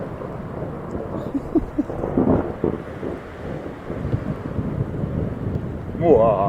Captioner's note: thunder continues cracking